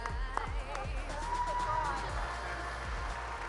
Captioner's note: applause